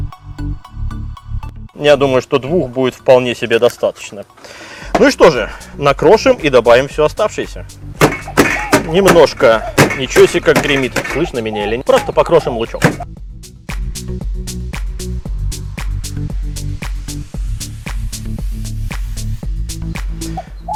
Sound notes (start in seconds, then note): 0.0 electronic music; 8.0 knocking continues; 8.0 knocking noises; 13.6 electronic music